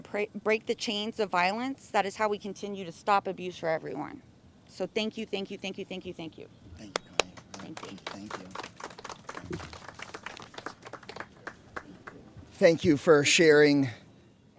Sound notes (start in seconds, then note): 10.5 applause